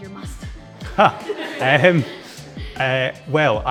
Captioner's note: all laughing